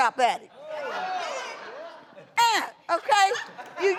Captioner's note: audience laughing